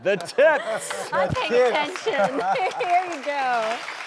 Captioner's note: laughing